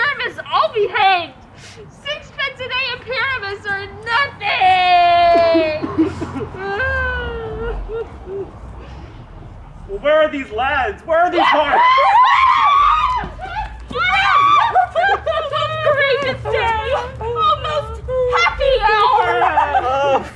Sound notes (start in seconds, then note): 5.1 sobbing; 11.4 celebratory squealing